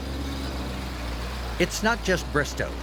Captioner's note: fire truck engine revving